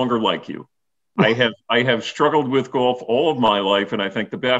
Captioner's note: laughter